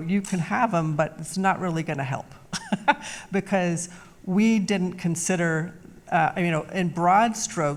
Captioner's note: laughs